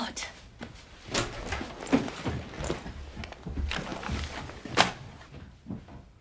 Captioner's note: footsteps; door opening and closing